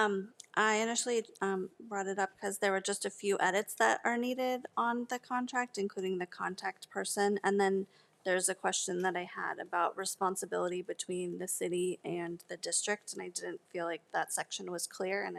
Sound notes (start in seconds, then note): none